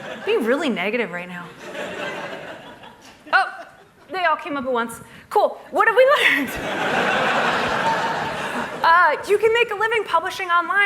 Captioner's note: laughter